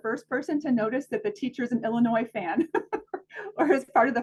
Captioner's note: laughs